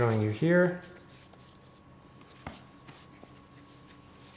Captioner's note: hands patting